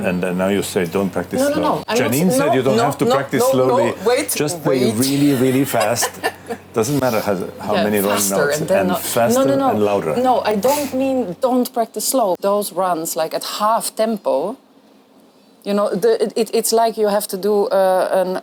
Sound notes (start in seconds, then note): 4.8 laughs